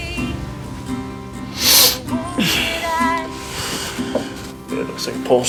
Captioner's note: Tex sniffles